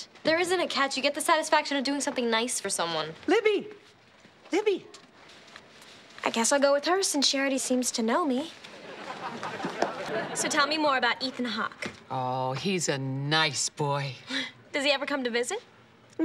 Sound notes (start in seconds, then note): 8.7 audience laughing